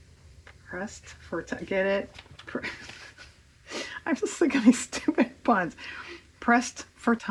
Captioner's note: laughs